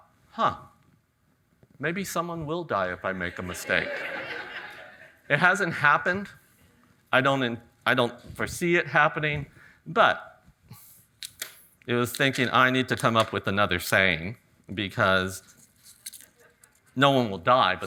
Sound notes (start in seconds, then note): 3.2 audience laughing